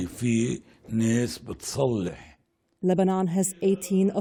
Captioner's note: voice-over